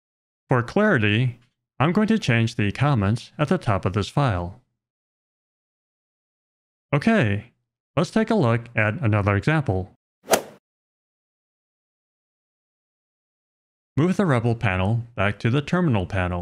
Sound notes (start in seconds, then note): 10.3 golf ball hit sound effect